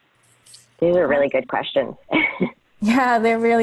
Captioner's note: laughs